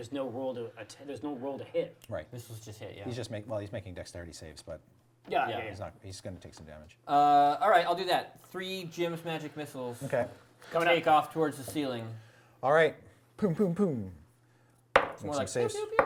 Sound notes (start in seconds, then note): none